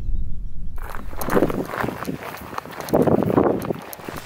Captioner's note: boots crunching under gravel